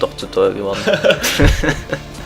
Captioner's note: both laugh